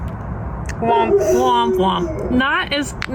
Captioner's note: neighbor dog howls